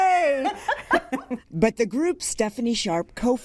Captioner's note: laughs